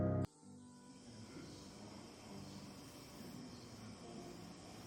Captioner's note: TV plays faintly